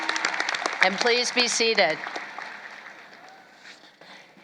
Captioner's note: applause